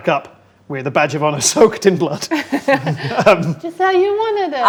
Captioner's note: laughs